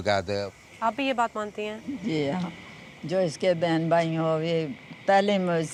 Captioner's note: speaking in foreign language